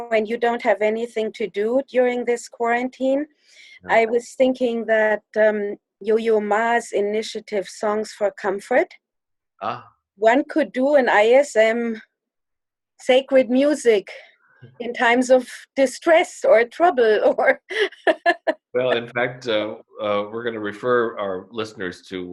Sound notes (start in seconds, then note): 18.7 chuckles